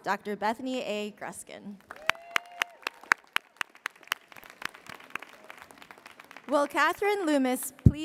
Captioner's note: applause